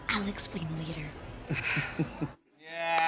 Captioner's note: sighs